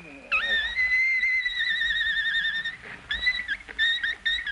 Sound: high-pitched buzzing

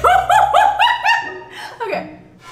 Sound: laughing

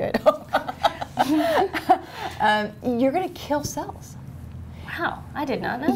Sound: laughter

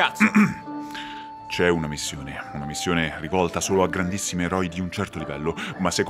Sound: clears throat

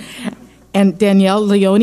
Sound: laughing

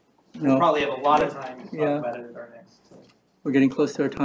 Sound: indistinct chatter

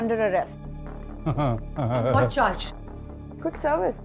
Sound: Gajraj Jogi Chuckling

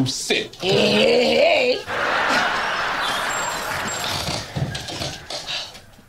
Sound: laughter

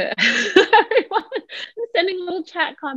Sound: laughter

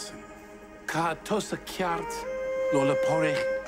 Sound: speaking Gaelic

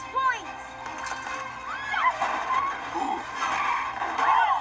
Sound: screaming

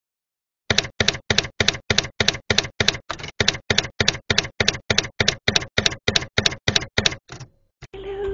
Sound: typewriter keys clacking

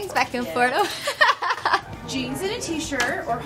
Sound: laughing

